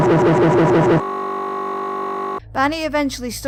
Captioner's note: glitching noises